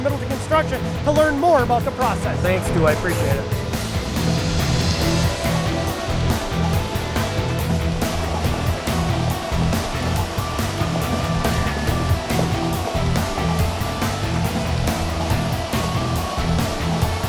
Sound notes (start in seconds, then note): 4.3 energetic rock music; 9.5 paver crunching